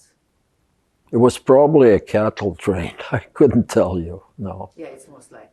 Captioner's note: laughing